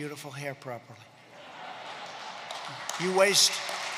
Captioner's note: laughter and applause